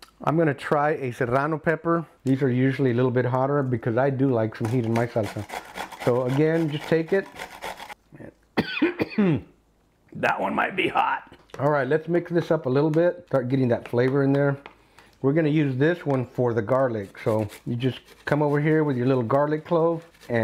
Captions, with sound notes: I'm gonna try a serrano pepper. These are usually a little bit hotter, because I do like some heat in my salsa. So again, just take it. (coughs) That one might be hot. All right, let's mix this up a little bit, start getting that flavor in there. We're gonna use this one for the garlic. So you just come over here with your little garlic clove,